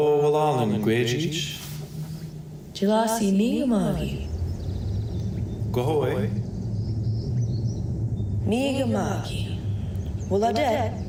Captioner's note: speaking Alternate Language